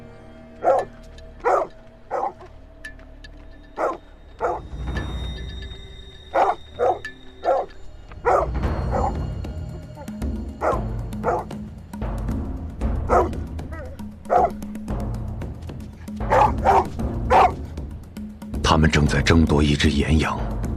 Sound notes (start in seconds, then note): 1.1 the growls of dog; 9.4 suspenseful music